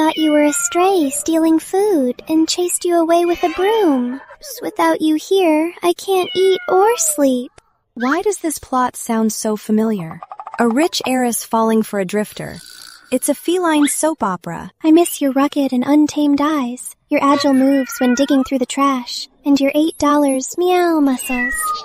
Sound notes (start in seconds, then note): 4.6 sob